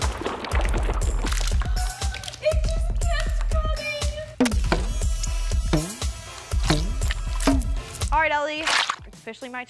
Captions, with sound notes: [gasping] It just kept coming! Alright, Ellie. It's officially my turn.